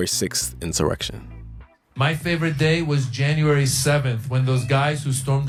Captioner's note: soundbite of archived recording